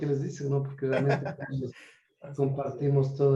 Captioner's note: laugh